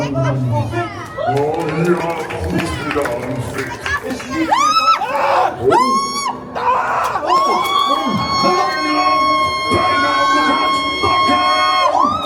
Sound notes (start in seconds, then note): 1.2 applause; 4.7 screams